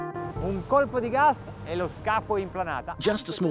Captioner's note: speaking foreign language